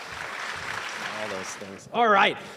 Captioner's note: applause